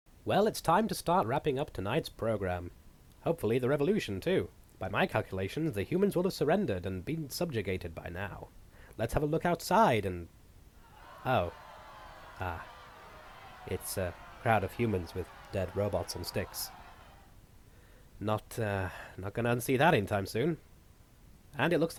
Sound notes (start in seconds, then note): 10.8 angry shouting